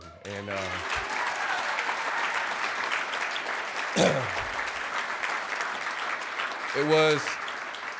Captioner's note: clapping